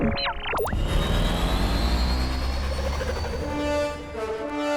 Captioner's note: robotic beeping; whirring; trumpets blaring